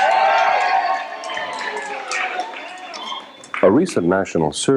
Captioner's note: cheers and applause